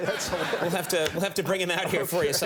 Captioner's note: Nick and audience laughing